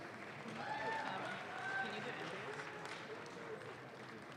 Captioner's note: audience claps